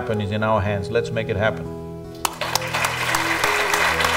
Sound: applause

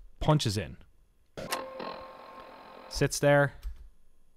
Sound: static high tone

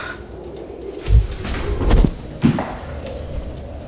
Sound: thud

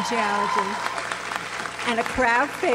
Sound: audience applauds

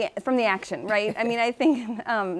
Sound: laughing

